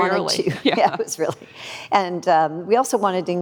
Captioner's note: laughs